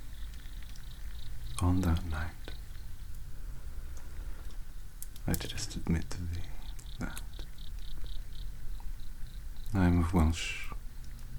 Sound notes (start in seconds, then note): none